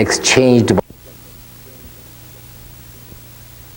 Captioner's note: rustlings